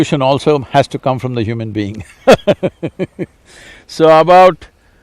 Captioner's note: laughs